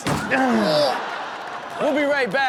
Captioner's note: audience laughs